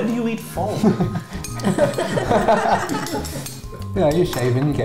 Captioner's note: all laugh